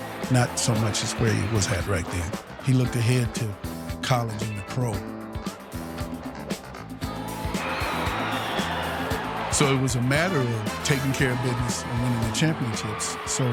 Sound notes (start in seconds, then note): 7.0 crowd cheering